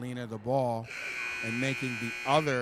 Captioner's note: buzzer sounding